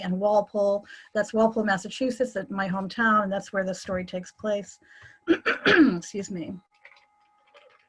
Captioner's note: coughs